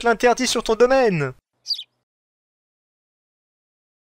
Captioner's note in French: chant d’oiseau